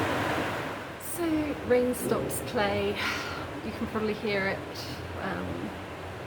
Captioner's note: sigh